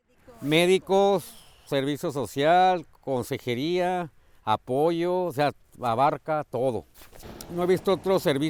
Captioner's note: speaking Spanish